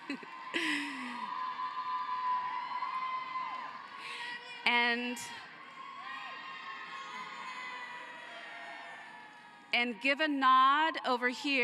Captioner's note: cheering and applause